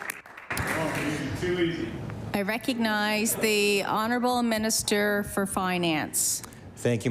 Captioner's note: applause